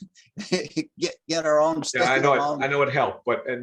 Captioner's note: chuckling